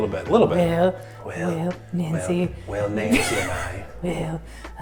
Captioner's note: cracks up